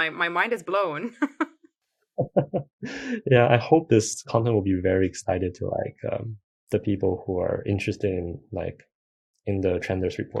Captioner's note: laughs